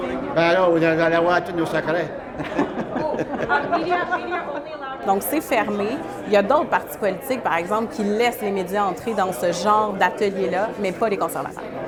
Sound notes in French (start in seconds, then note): 2.3 rires